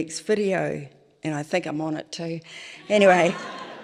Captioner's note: laughter